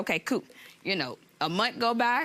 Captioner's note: none